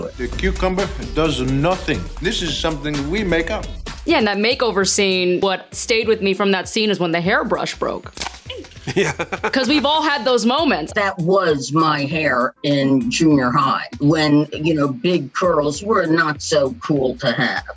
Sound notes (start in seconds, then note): 8.1 snap, grunt